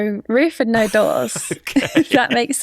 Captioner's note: laughs